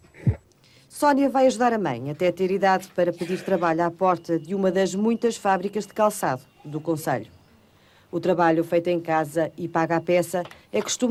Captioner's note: speaking portugese